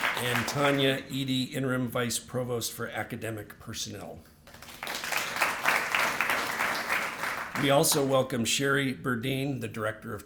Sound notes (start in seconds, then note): 0.0 applause; 4.4 applause